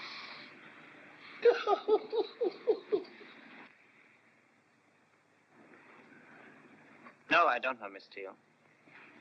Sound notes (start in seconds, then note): 1.4 Judge Steele laughs